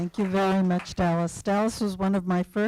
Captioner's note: applause